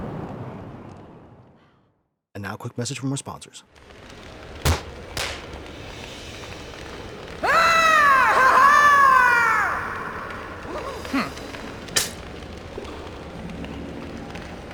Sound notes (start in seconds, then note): 7.4 bloodthirsty shout; 11.9 spits